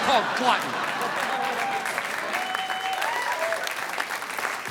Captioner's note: audience applauding